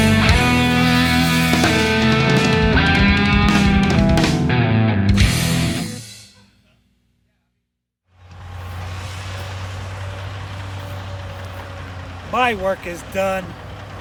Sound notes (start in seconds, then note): 3.4 rock music ends; 8.1 engine roaring